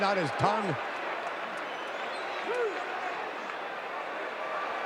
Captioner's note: audience cheering